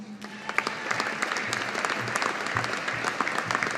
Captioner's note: audience applauding